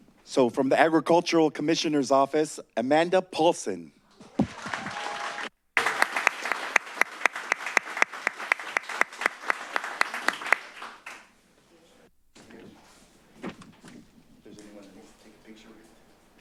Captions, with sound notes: So from the Agricultural Commissioner's Office, Amanda Paulson. [applause] - If there's anyone that needs to take a picture.